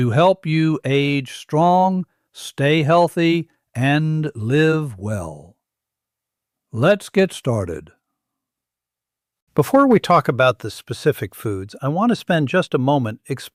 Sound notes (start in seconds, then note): 8.0 pause